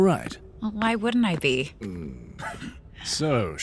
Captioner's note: footsteps approach. Leery dad sounds